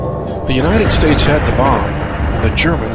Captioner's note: bomb explodes